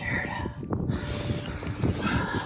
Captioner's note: none